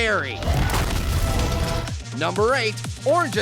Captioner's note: Ice Cream exploding